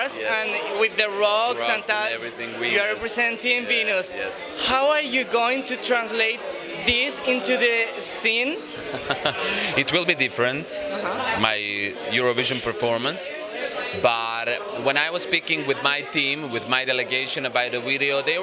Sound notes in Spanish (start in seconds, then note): 8.7 risas